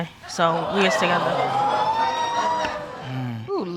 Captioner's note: audience exclaiming